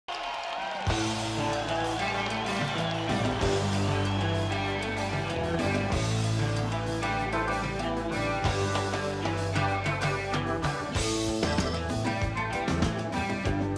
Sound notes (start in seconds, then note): 0.1 audience cheers; 3.4 guitar intro